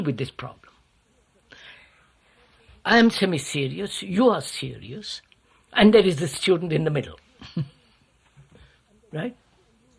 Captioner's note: laughs